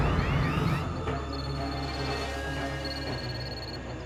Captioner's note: phone ringing